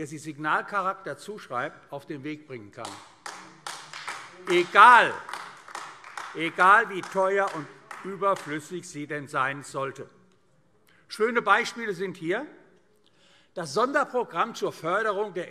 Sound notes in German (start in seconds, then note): 2.8 Beifall AfD